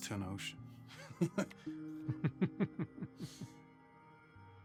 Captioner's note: laughing